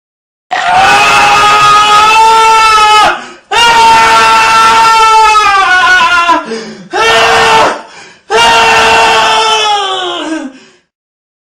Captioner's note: screaming